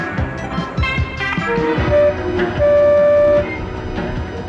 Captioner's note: horn honks